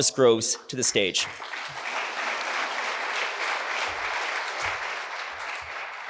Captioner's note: audience applauding